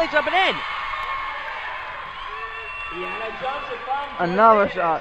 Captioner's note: crowd cheers